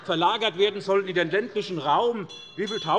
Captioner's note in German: Lachen bei der SPD - Glockenzeichen des Präsidenten